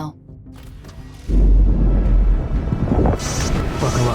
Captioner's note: intense music; asteroid explodes